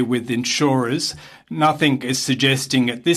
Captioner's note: speaking French